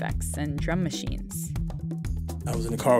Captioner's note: soundbite of archived recording